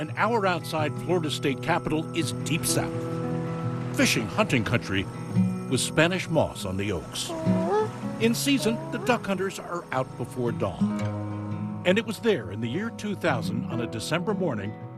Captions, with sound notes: an hour outside Florida's state capital, is deep South-- fish, hunting country with Spanish moss on the oaks. [duck call] In season, the duck hunters are out before dawn. And it was there in the year 2000 on a December morning